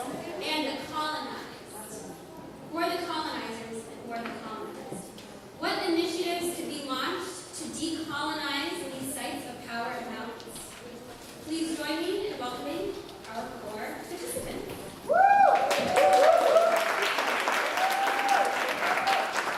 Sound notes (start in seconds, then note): 15.4 applause